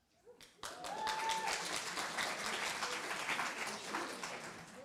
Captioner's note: applause